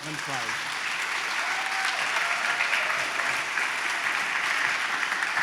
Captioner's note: applause